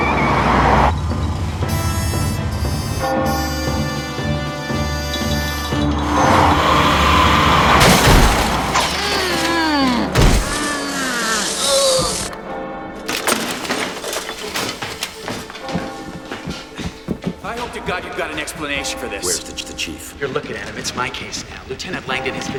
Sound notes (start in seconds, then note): 0.0 tires screech; 4.0 bell chiming; 9.8 groaning